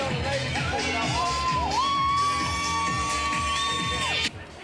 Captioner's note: crowd cheering